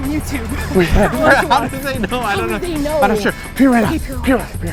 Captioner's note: both laughing